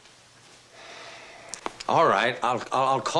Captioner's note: sighs